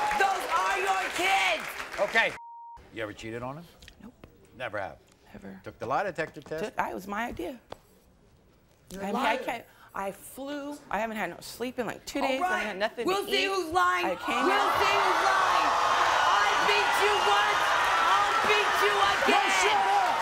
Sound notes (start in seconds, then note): 14.1 crowd cheering